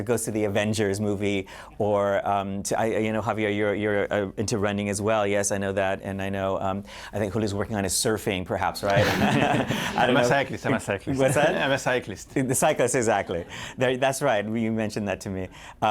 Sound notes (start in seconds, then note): 8.9 laughter